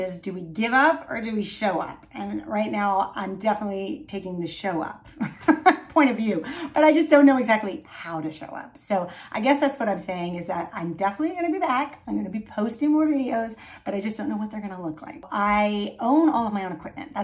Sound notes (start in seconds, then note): 5.1 chuckling